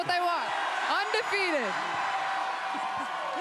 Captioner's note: crowd cheers